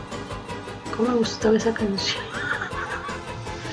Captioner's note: old lady laugh